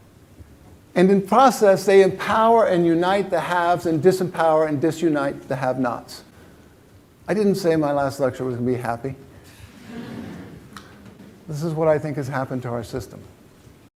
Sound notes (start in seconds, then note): 9.8 laughter